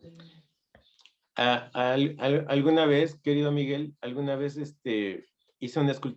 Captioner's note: spanish